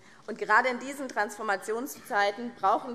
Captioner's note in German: none